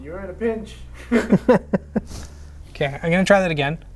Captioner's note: both laughing